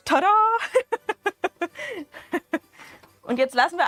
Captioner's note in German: Gelächter